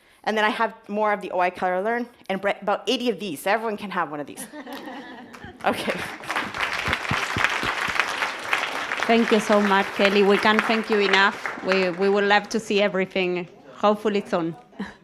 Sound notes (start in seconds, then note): 4.4 audience chuckles; 4.7 audience applauds